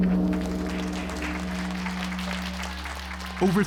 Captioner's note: bell rings deeply; applause